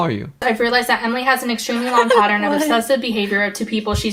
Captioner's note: laughs